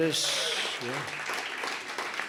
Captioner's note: applause